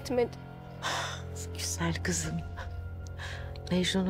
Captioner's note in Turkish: Adalet iç çekti